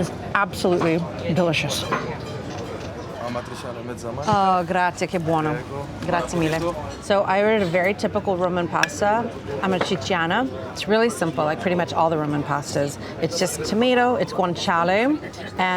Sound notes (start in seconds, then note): 4.2 speaks Italian; 4.2 waiter speaks Italian